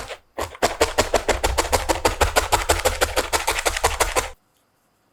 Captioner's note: rustle rustle